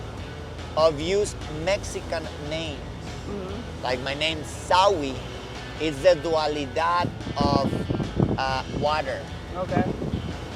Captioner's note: foreign language 00:00:50